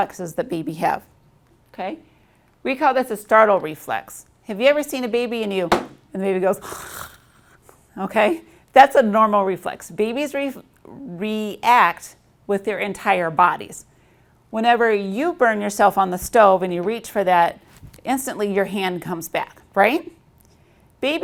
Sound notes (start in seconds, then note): 5.7 slapping sound; 6.6 gargling sound